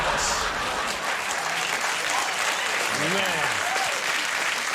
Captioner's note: audience laughs